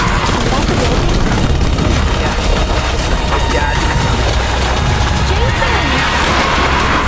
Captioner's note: devastation roaring as people run